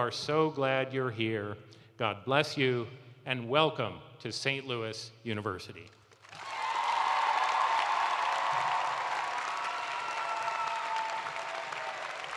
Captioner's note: cheers and applause